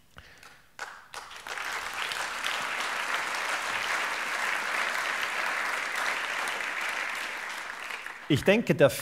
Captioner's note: applause